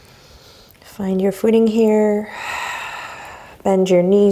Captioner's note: deep breaths